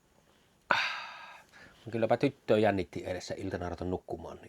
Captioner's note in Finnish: huokaus